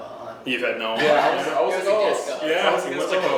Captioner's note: laughing